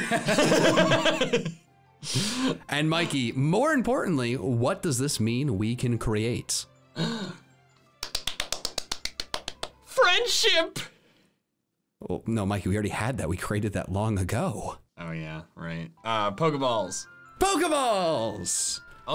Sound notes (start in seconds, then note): 0.0 laughing; 8.0 clapping